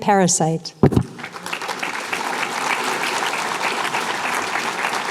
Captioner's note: applause